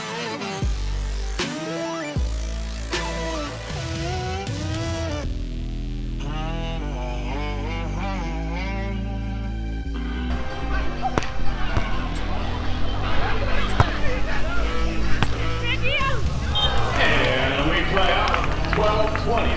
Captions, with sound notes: [volleyball hits] [crowd disappointed] And we play on, 12-20